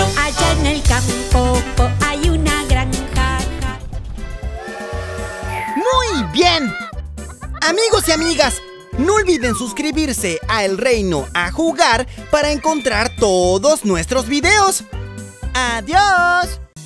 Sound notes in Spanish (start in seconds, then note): 3.9 Sonido de tren